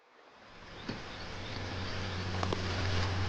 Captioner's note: water gurgling; dark bluesy music